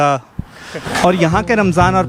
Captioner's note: laughs